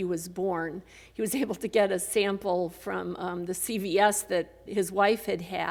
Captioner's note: laughs